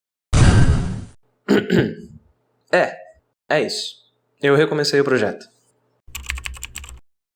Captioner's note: ehem